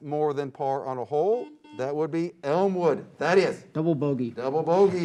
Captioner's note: beep